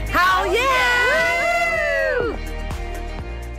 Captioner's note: cheers